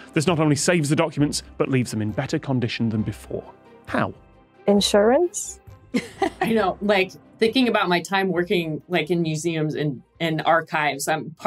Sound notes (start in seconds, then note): 6.0 laughs